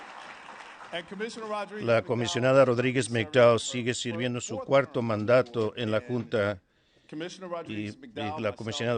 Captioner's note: applause